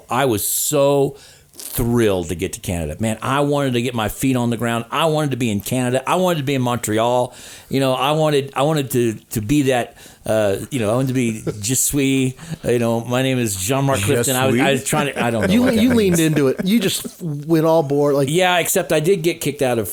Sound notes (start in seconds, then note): 13.5 laughing